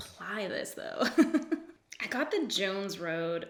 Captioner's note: laughs